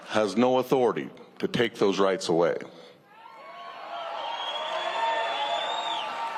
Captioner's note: cheers and applause